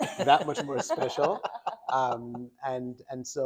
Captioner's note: doctors laughing